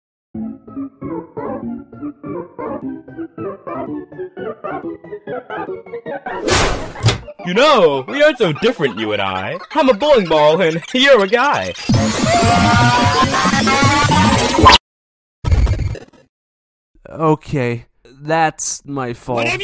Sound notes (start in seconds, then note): 0.3 distorted scary music rises; 10.8 distorted noises; 12.2 bowling ball screaming